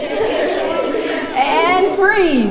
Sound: laughter

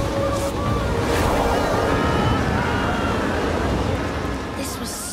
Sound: whirring, screaming

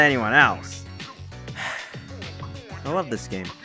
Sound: sigh

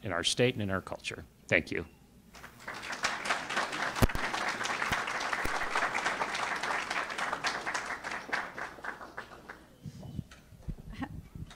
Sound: clapping

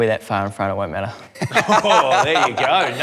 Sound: laughs

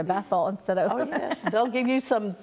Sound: laughs

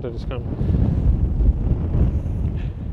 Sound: wind blowing

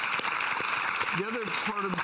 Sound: audience applauding

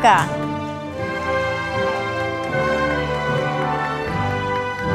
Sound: audience applauding

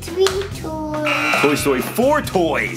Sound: buzzer sounds

